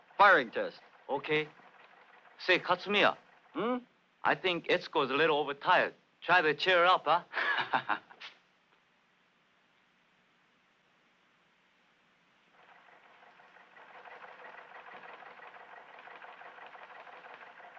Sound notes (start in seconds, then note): 7.3 laughs